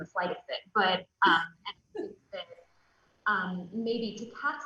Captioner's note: soft giggles